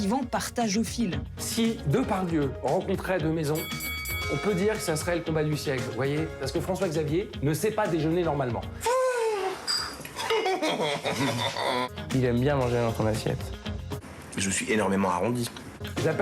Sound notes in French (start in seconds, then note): 10.1 rires